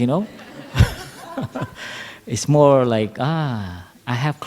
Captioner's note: laughter